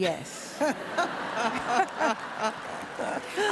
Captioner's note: laughs and applause